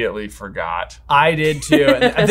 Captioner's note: laughing